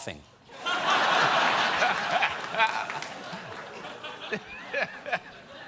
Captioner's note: laughter